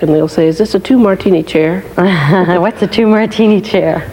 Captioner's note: laughing